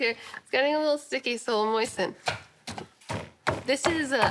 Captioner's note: pounding